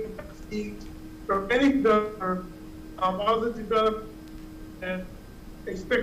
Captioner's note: mic cutting in and out